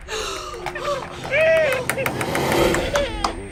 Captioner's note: radio interference. WOMAN gasps sharply, realizing something; baby launches full force into loud, anguished sobs, on the baby monitor